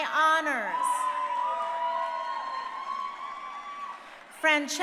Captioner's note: crowd cheering